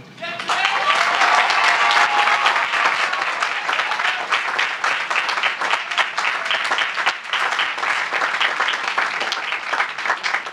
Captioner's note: applause